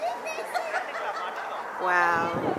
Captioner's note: laughing